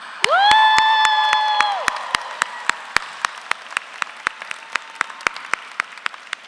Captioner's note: audience applauds